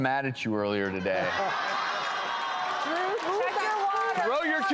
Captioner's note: audience laughs